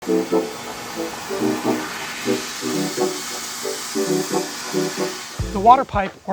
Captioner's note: upbeat music; flames hissing